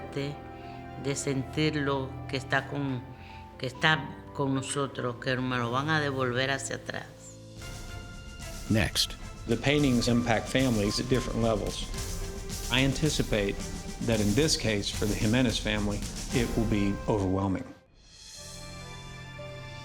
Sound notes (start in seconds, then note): 0.0 speaking spanish